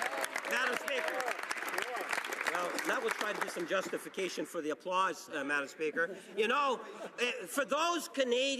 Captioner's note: cheering and Applause